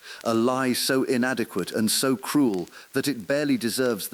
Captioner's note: exhale